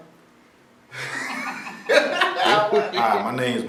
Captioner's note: laughter